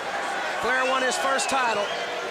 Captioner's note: crowd chatter